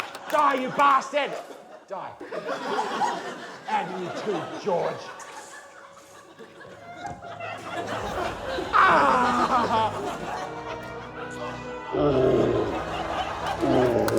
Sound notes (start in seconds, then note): 8.7 anguished cry; 12.0 grunts